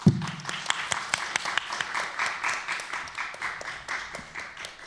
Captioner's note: applause